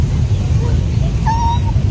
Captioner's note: squee